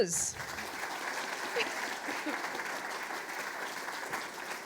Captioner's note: audience applauds